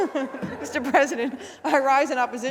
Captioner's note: laughter